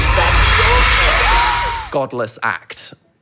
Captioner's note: crowd cheering